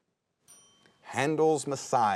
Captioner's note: bell dings